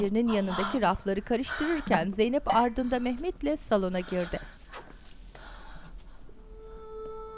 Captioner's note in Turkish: Nefes sesi